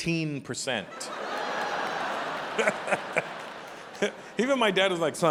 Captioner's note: audience laughing